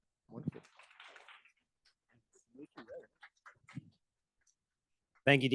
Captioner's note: audience applauding